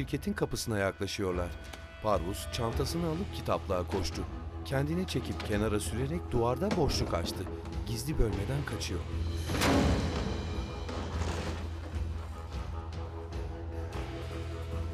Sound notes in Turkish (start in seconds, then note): 1.0 Müzik - Gerilim; 9.4 Kapı açılma sesi; 10.5 Müzik - Gerilim